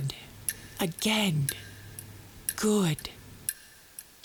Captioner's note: deep breaths